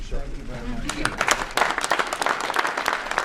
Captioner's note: applause